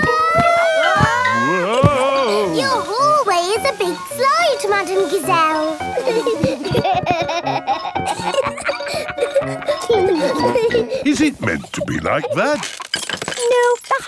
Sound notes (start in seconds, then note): 0.3 all yelling; 5.9 giggling